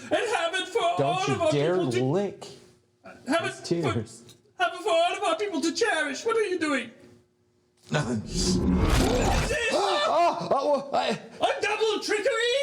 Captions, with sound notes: and have it for all of our people. Don't you dare lick my tears. Not before all of our people to cherish. What are you doing? (sniffs) What is this? (gasps) I'm double trickery.